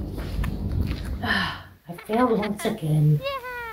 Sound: sigh

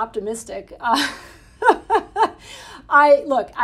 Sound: Jennifer laughing

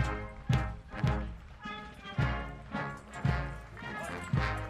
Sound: audience applauding

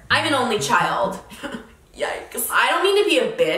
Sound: chuckles

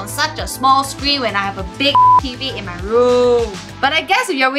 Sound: beep

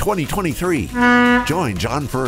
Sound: boat horn blares

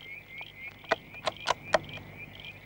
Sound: loading rifle

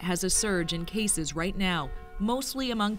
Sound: bells tolling

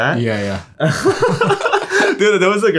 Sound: both laughing

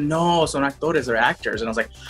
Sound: speaking Spanish

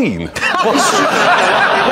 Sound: everyone flakking loses it

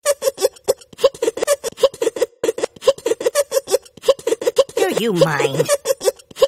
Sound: snickering

